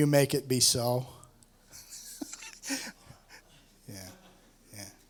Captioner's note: laughs